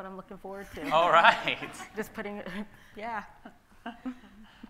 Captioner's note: laughing